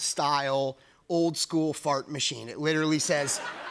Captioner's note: laughter